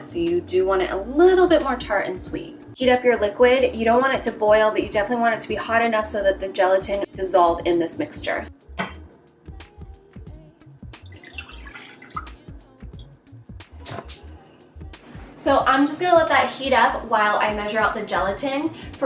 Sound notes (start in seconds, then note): 11.0 liquid pouring; 13.7 fire flame crackling